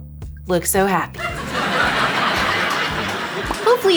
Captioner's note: audience laughing